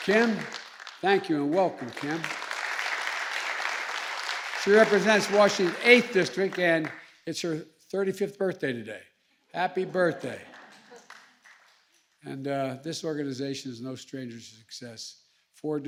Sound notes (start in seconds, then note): 2.8 applause